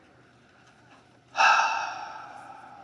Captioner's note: sigh